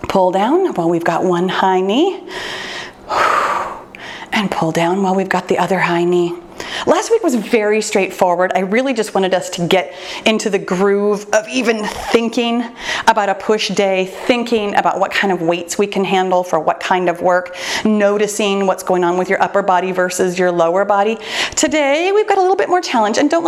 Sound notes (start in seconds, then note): 2.3 exhales deeply